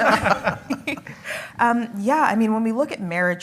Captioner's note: panel laughing